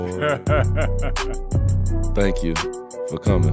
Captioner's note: laughing